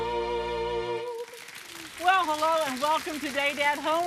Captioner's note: crowd applause